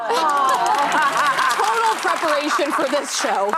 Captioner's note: audience applauding